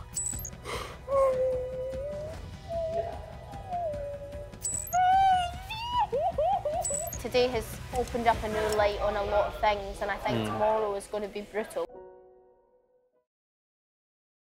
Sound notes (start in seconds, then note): 0.3 crying; 4.9 sobs